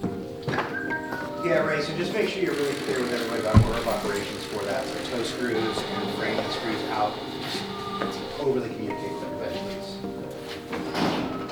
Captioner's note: background Speech